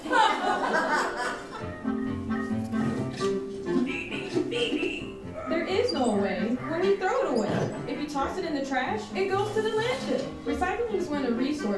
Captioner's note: audience laughing while watching video